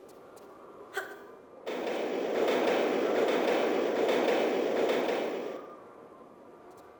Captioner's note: sound of train ♫